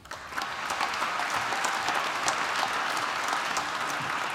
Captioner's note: applause